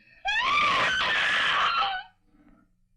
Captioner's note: screams